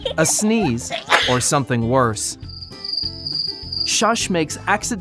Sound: child laughing; sneezing; crickets chirping

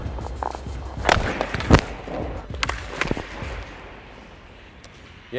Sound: hockey sticks smacking

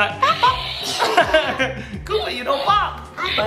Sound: laughs

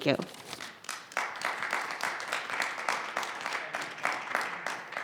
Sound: audience clapping

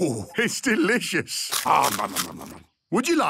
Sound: crunching

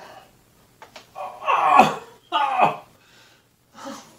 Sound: very painful sound

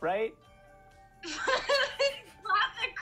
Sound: laughter

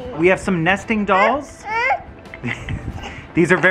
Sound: laughs

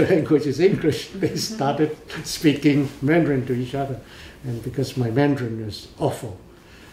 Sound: laughs

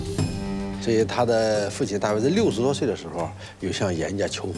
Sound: speaking Chinese

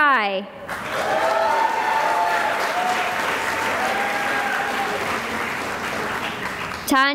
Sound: cheering and applause

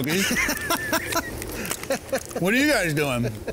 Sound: laughs

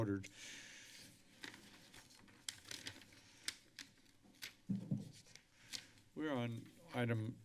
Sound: paper rustling

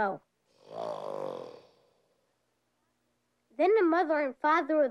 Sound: alligator growls

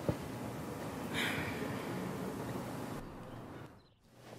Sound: sighs

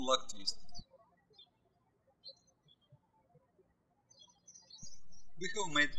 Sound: birds chirping

